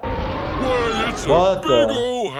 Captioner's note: wind blowing